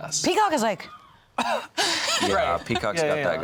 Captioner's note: laugh